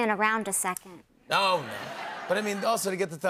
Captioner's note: laughter